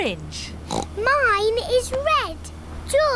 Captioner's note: oinks